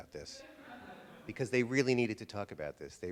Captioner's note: audience laughter